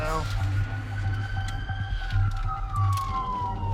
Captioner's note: siren wailing